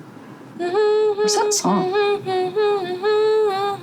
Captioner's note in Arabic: امرأة تدندن